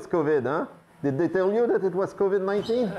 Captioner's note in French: bips du moniteur